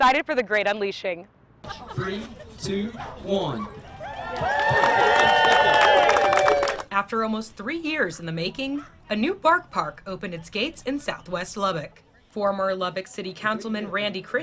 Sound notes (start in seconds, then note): 4.0 ribbon cutting/cheerin